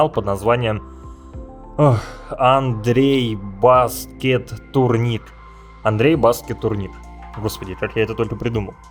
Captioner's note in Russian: Тяжелый вздох